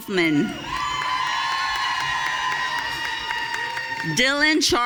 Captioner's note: audience cheering